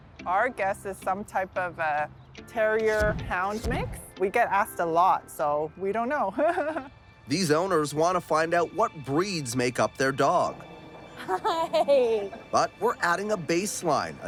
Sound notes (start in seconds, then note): 6.4 laughs; 11.2 dog owner 2 laughing